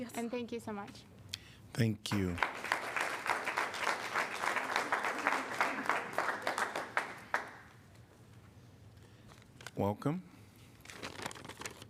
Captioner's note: applause